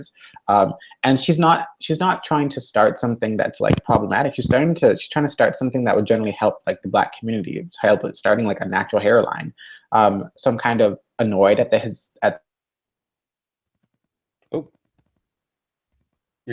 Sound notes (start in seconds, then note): 12.5 silence